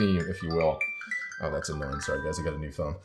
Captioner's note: cell phone ringing